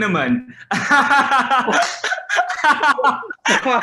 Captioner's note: laughing